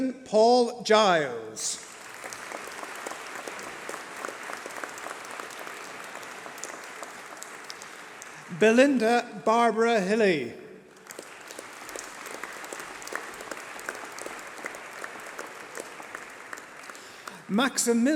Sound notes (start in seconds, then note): 1.6 applause